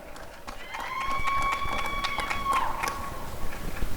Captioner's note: applause and cheering